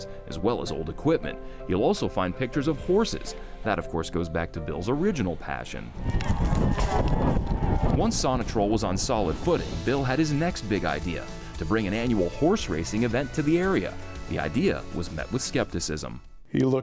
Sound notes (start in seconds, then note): 5.9 horse hoofs beating; 6.0 crowd cheering